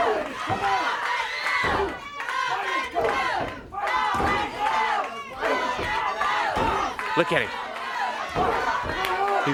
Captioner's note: crowd cheering